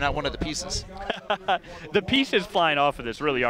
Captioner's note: laughing